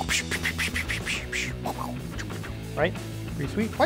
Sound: whisping air

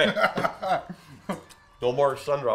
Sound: laughing

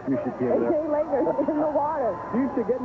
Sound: rain

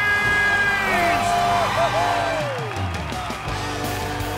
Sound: crowd cheering

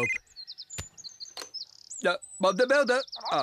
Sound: cell Phone Ringing

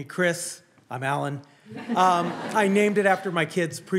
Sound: audience laughing

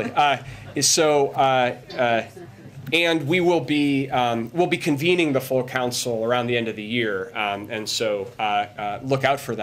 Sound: laughter

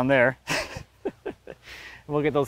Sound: laughs

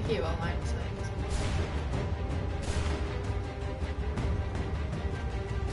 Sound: gunshots

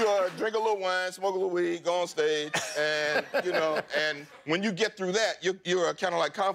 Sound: applause

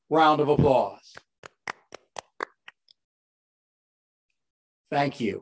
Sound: applause

